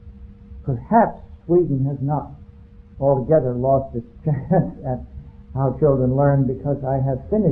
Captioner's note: chuckles